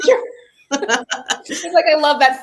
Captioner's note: laughter